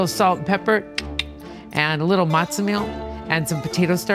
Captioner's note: clicks tongue